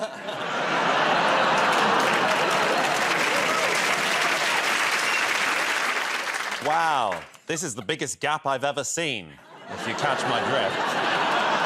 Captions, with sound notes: [ Laughter ] [ Cheers and applause ] -Wow. This is the biggest gap I've ever seen, if you touch my drift.